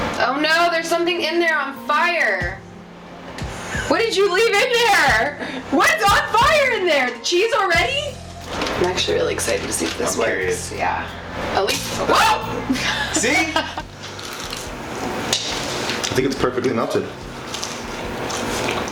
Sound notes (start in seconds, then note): 11.9 yelping; 14.0 crunching